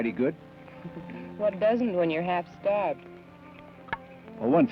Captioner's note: chuckles